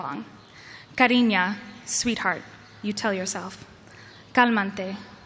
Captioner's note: spanish